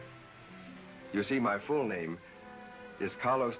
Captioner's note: none